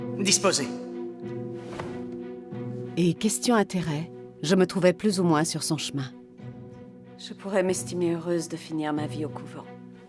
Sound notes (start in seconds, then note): 1.5 dramatic music; 1.7 boots clicking